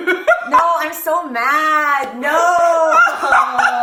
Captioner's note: laughs